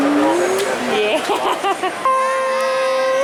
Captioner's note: laughing